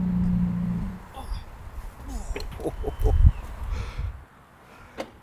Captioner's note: laughter